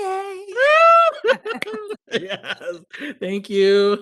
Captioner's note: squeals; laughs